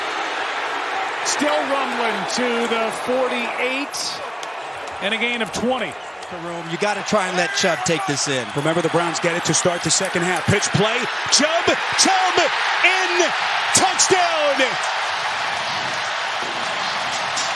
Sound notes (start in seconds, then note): 13.7 applause; 14.4 cheering and applause